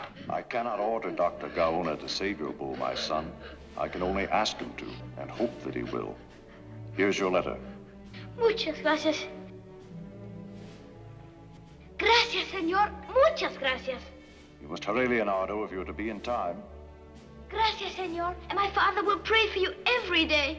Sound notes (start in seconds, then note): none